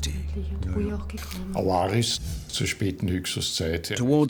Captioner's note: speaking German